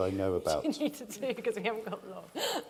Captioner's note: laughs